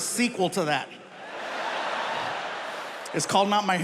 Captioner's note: audience laughing